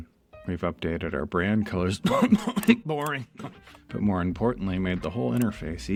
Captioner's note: cough